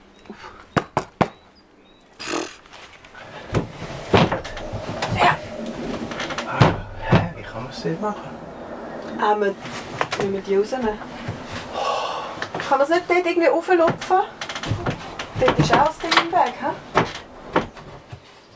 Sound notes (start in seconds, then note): 6.5 in Swiss German